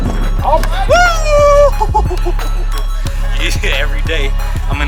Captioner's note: cheering